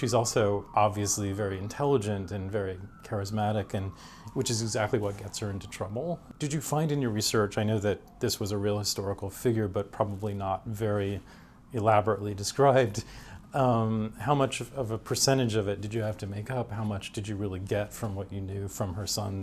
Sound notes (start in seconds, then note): none